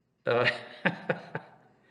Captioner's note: laughs